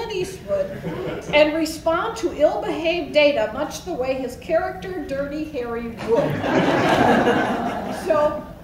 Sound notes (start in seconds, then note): 6.0 laughs